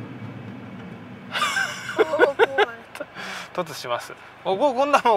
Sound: laughs

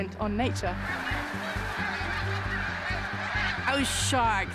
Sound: birds calling

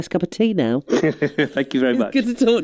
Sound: laughs

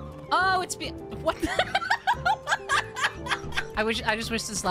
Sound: laughter

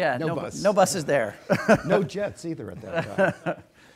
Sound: laughs

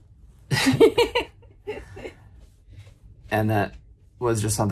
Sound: laughing

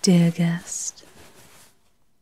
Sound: cloth rustles and swishes

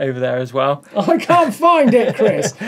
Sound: laughs

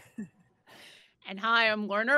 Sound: all laughing

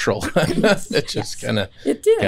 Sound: laughter

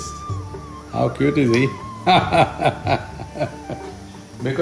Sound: laughs

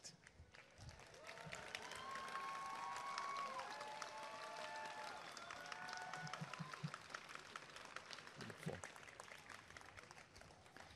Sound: applause and cheering

